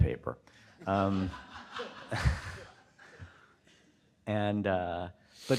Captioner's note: audience laughing